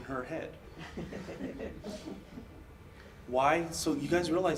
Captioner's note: audience laughs